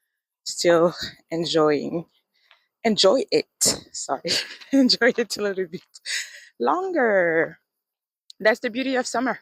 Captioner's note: laughs